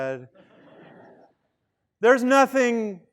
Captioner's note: student laughing